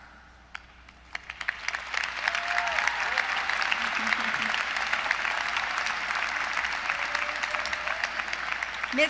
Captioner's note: applause